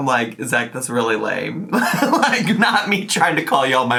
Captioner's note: laughs